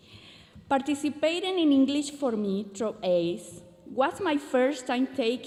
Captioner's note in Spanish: continúa hablando en inglés